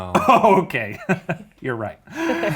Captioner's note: all laughing; laughs